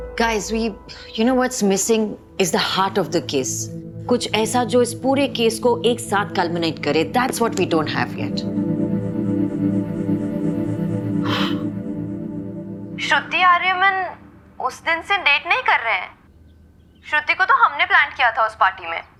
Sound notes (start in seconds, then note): 8.9 solemn music playing; 11.2 sighing